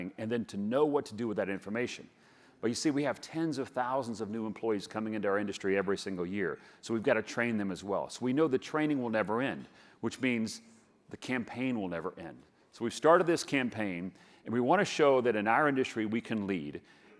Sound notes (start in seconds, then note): none